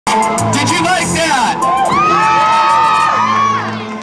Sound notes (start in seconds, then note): 1.7 screams